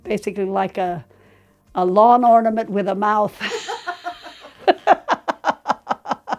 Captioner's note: both laughing